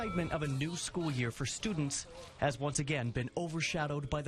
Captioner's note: NATS - School Bell